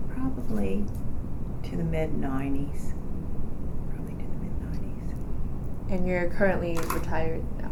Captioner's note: quietly